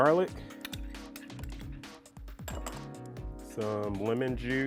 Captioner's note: scraping bowl